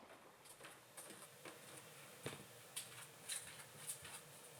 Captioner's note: feet shuffling